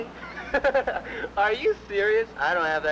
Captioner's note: laughs